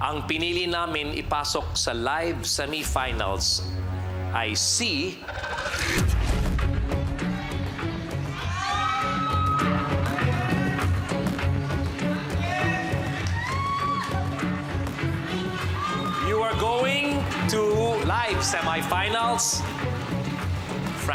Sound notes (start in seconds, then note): 5.1 tense music playing; 5.6 cheering